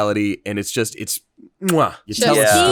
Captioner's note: kiss smooching